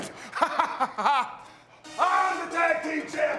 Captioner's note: laughs